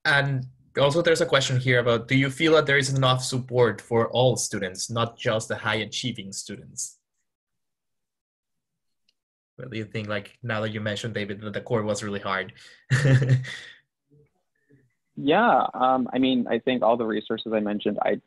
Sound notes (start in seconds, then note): 13.6 laughs